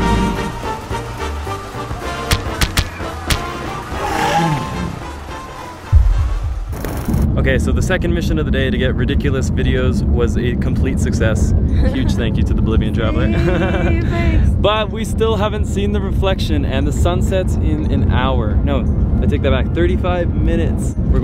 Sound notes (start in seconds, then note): 0.1 dinosaur growling; 5.8 foot stomping